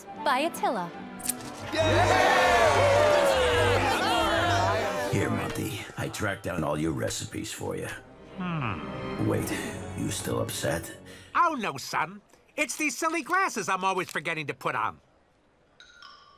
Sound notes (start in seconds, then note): 3.2 all cheering